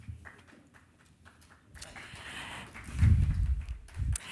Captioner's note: applause